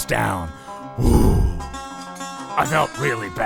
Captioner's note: exhale